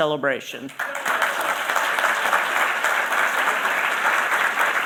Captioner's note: applause